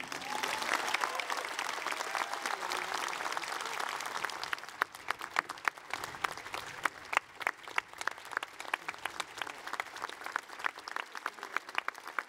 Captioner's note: applause